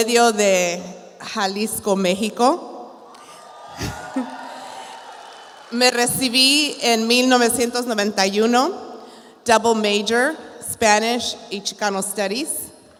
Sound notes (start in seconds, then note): 3.1 audience applauds; 6.0 speaks in Spanish